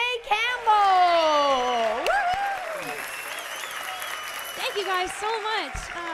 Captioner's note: cheers and applause